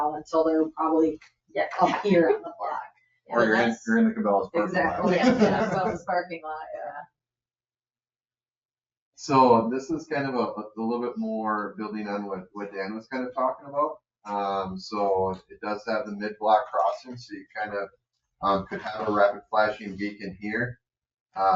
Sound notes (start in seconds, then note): 5.9 members laugh